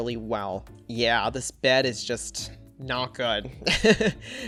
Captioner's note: laughs